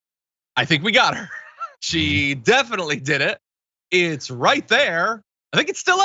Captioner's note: laugh